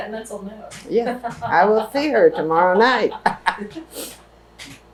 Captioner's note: laughter